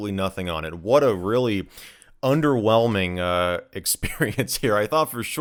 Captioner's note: laughs